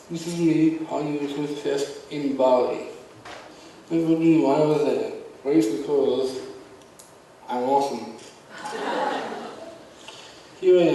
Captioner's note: audience laughs